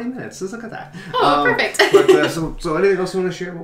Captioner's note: laughter